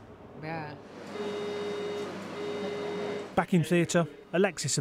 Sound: beeping

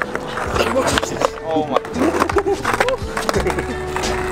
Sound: laughter; relaxed music

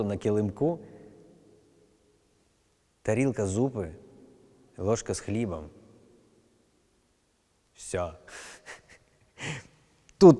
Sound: laughs

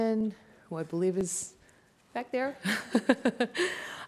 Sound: chuckles

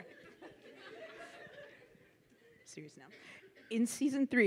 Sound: laughs

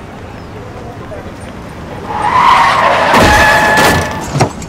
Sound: tires screeching

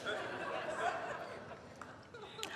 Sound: laughter

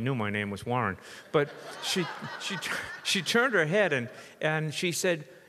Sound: audience laughs

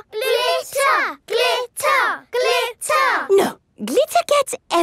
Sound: chanting

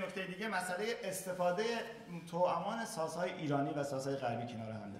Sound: speaking in farsi

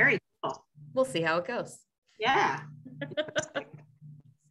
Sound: laughs

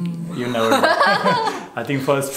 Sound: laughter

